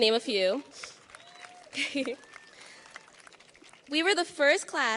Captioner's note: audience cheers and applauds